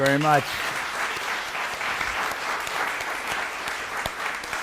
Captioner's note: applause